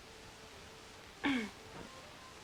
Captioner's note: clears throat